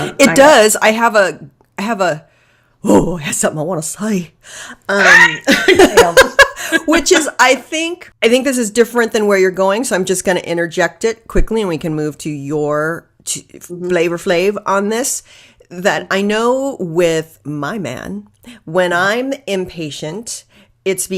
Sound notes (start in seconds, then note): 4.9 laughing